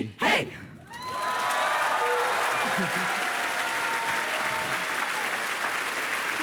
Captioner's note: applause